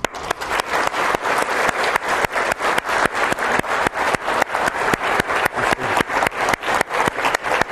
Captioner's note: sustained applause